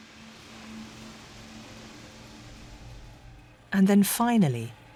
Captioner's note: rain pattering